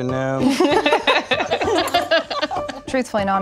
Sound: laughs

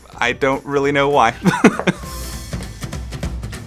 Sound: laugh

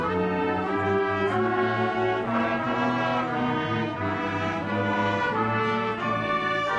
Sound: none

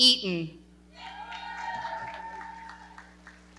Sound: audience cheering and clapping

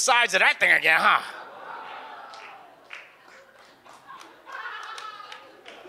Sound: audience exclaims and laughs

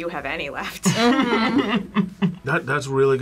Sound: laughs

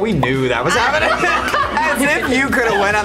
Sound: laughs loudly

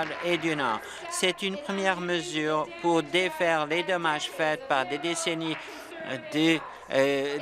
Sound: applause

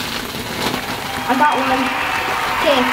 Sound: people applauding and cheering

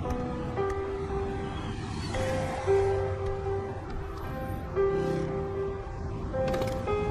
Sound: cinematic music; typing; cinematic music

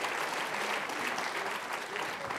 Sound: applause

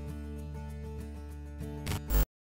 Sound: static

